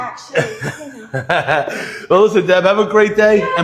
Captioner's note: laughs